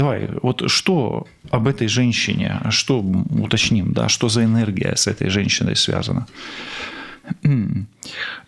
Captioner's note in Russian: откашливается